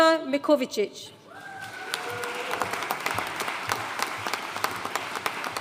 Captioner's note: audience cheering and applauding